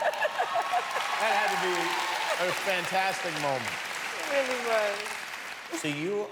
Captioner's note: cheers and applause